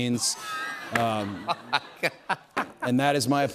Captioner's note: laughing